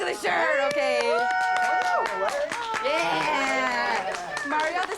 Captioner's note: cheers and applause